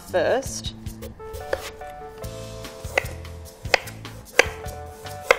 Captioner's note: knife tapping against wooden board